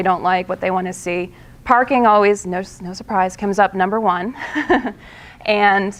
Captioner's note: laughing